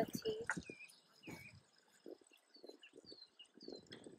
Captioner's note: wind blowing